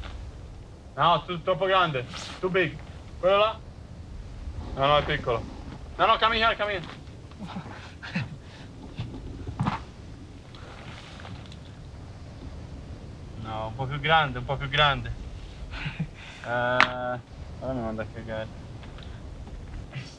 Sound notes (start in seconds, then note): 0.4 in Italian; 4.5 in Italian; 13.9 in Italian